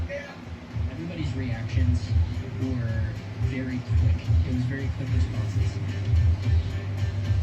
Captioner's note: on TV